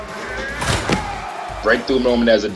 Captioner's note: ball slams